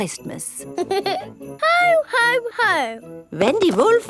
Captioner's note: giggles